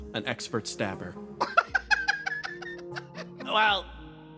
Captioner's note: laugh